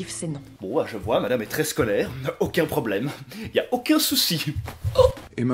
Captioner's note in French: Bruit d'étranglement